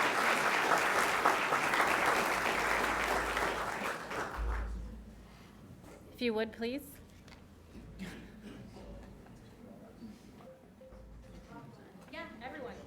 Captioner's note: applause